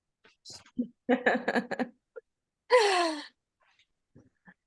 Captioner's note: laughter